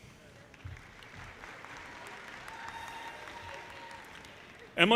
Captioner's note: audience applauding